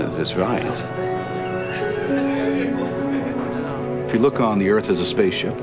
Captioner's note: people chatter; soft music